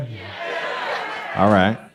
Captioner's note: crowd